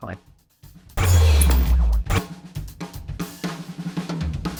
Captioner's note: scene screeches; upbeat drum music